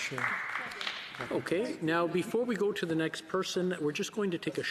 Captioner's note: some Applause